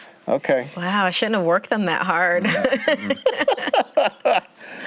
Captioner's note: laughter